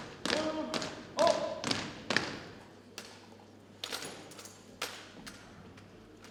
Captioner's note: cadets thump rhythmically